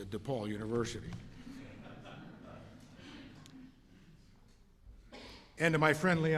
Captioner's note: laughter